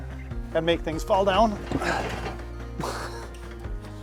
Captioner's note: grunts